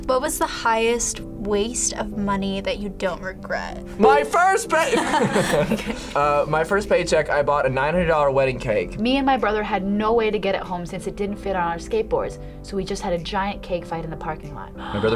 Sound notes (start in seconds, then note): 4.7 both laugh